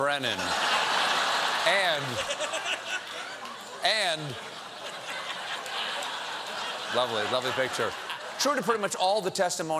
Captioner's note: laughter